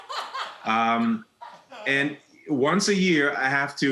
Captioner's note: audience laughing